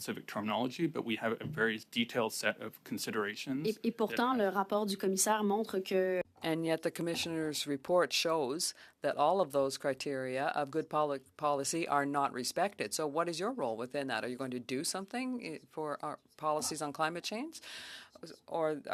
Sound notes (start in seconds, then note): 10.3 speaking French